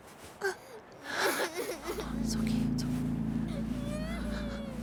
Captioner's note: Meg cries